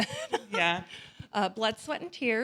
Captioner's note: laughs